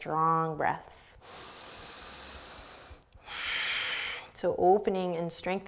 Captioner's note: deep breathing